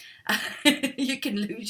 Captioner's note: laughs